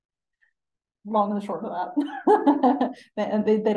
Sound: laughing

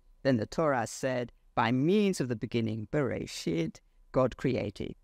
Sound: speaks foreign language

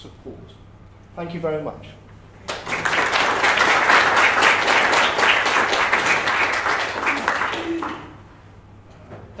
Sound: applause

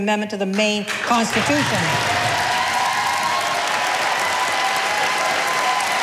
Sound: audience applauding

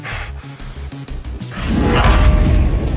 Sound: grunts

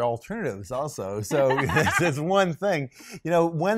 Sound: laughs

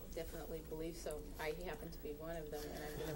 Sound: all laughing

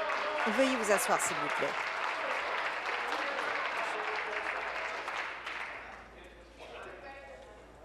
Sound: applause

